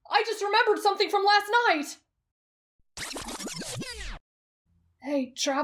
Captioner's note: rewind sound